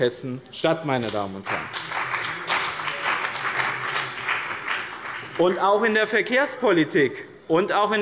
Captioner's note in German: Beifall bei dem BÜNDNIS 90/DIE GRÜNEN und der CDU